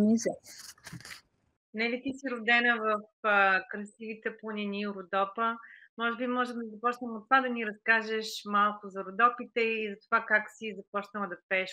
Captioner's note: foreign Language Spoken